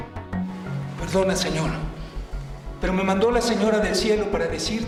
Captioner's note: speaking spanish